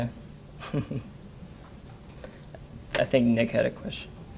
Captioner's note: laughs